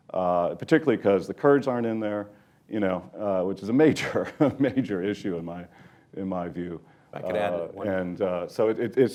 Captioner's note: laughs